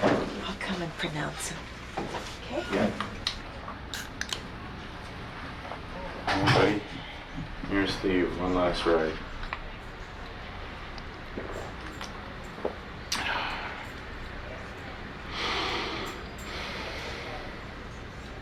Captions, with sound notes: I’ll come and pronounce him. Okay. Old buddy, here’s to you. One last ride. [ Sighs ] [ Inhales, Exhales ]